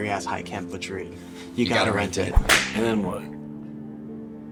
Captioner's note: whip crack